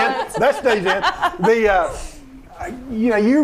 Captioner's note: laughing